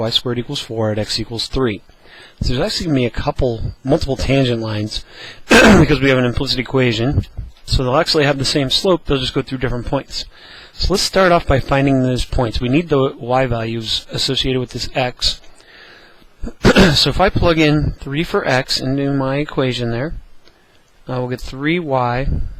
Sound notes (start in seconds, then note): 5.4 cough; 16.4 cough